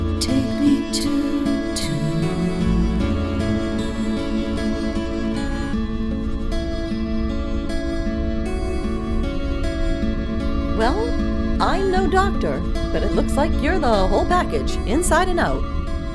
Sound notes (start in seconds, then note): 6.0 medical scanner sounds; 15.9 deep masculine voice